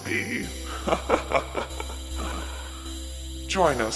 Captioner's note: laughter